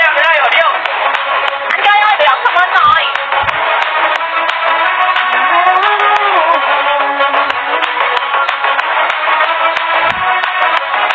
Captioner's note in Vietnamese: Vỗ tay